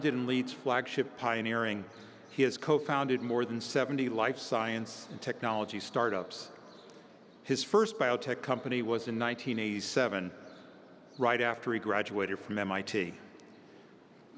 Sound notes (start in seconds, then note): none